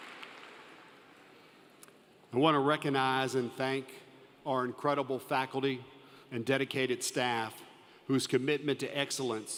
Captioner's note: applause